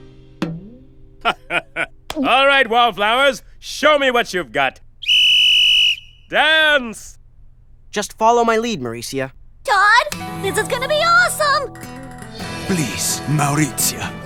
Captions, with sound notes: (LAUGHS) ALL RIGHT WALLFLOWERS, SHOW ME WHAT YOU'VE GOT! (BLOWS WHISTLE) DANCE! JUST FOLLOW MY LEAD, MAURECIA. TODD, THIS IS GOING TO BE AWESOME! (SPANISH ACCENT) PLEASE, MAURECIA, TAKE MY HAND.